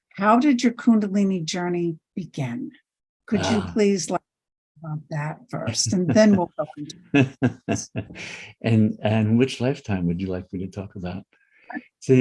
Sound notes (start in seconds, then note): 7.1 laughing